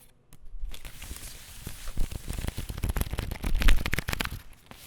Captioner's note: cards rustling